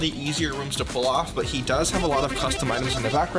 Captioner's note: effect blipping